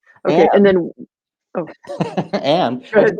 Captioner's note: laughing